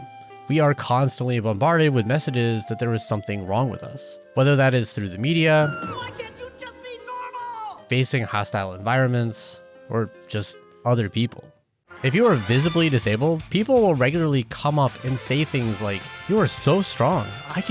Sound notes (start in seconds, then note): 5.7 child screams; 6.1 father, yells